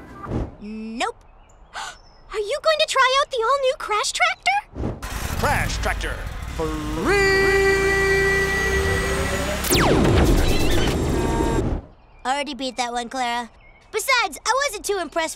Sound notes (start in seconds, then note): 4.7 video game sound effects